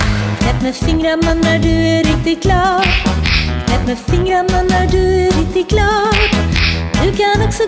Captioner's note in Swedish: knäpp knäpp